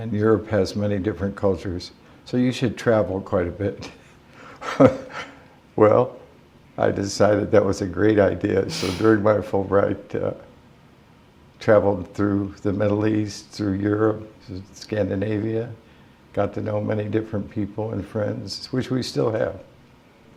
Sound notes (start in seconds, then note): 5.5 chuckle